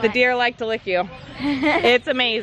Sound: laughs

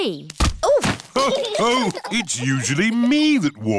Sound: others laugh

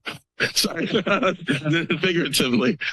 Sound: laughter

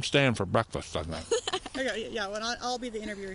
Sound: laughter

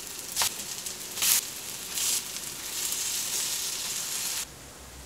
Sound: sizzle

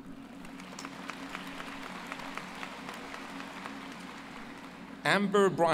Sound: applause

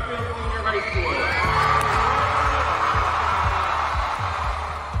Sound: clapping and cheering

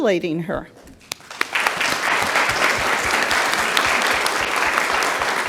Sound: audience claps

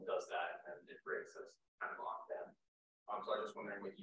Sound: faintly speaking

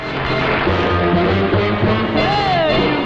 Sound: audience claps

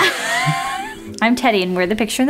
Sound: laughing

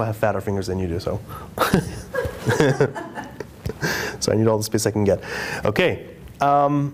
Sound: laughter

